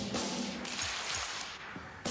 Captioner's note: drumming; clapping